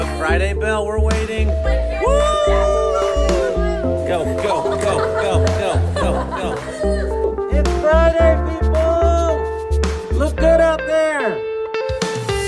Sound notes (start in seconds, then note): 1.3 bell ringing; 2.0 cheering